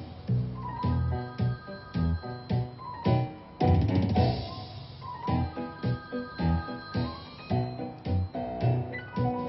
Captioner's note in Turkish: Telefon çalıyor